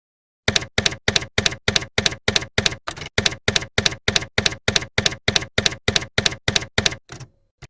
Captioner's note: typewriter keys clacking